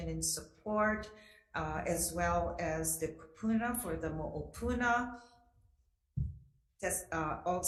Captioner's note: speaks foreign language